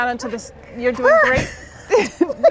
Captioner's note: laughter